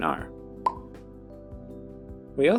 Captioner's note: pop